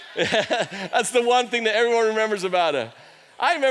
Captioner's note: laughs